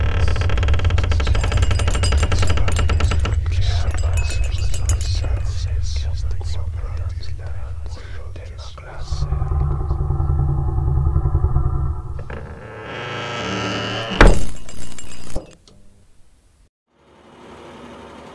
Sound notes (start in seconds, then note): 1.8 eerie whispers get louder; 8.8 growling sounds